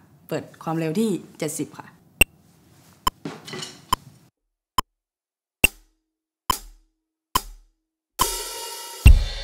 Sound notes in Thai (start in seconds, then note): 2.0 เสียง Metronome; 8.2 เสียงกลอง